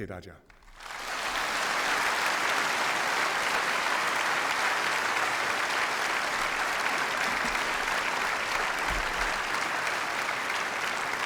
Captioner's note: 掌声